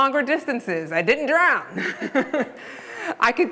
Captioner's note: laughing